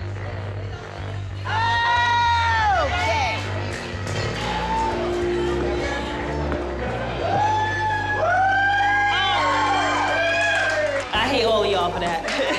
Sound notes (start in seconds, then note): 4.1 cheering; 11.8 laughing